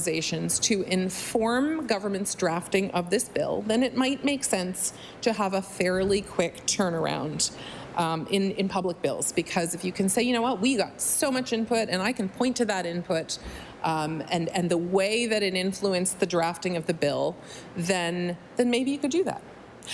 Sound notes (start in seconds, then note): none